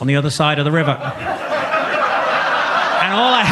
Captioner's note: audience laughs